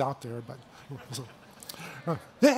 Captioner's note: laughter